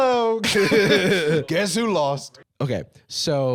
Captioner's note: both laughing